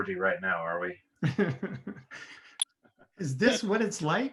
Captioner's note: group laughing